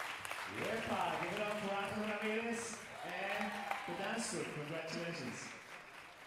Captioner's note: speaking in Spanish